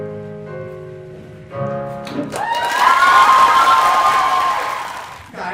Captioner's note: applause